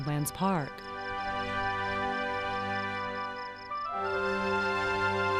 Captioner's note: crickets chirping